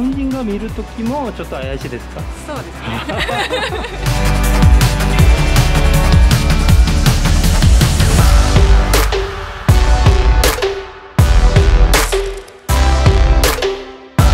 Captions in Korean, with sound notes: 일본인이 볼 때도 수상합니까? 네. 그렇습니다. 하 하 하 (웃음)